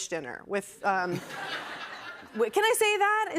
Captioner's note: laughter